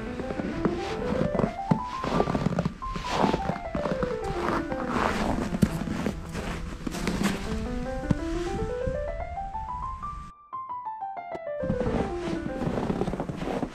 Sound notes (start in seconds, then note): 4.0 footsteps